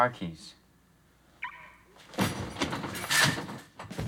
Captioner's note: car alarm chirps off